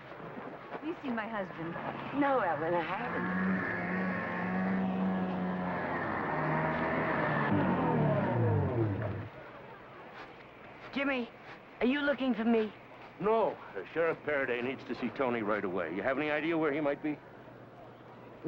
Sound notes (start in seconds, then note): 2.3 snowmobile driving